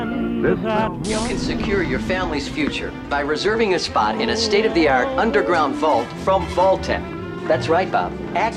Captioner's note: television